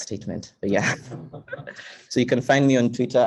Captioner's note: laughing